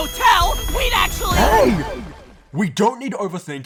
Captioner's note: earth shakes